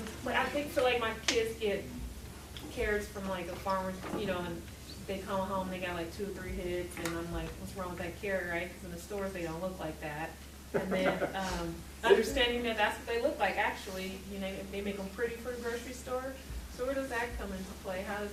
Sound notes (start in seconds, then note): 10.7 laughing